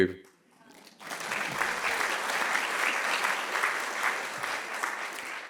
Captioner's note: audience clapping